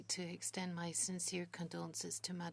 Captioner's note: speaking French